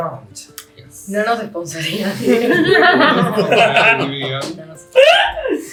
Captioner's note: laughs